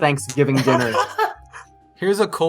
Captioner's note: laughter